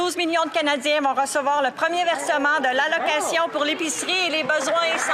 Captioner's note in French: voix de l'interprète